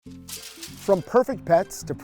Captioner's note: paper crumpling